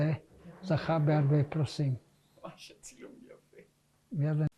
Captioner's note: hebrew